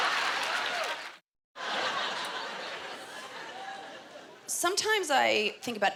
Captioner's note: applause